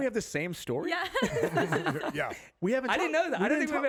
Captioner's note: all laughing